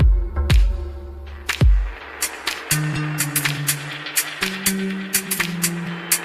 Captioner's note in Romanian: Aplauze